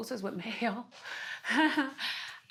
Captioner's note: chuckles